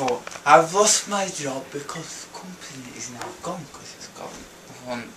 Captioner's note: drunken mumbling